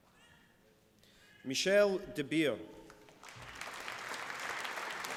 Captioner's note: applause